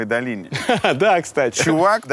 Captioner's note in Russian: смеётся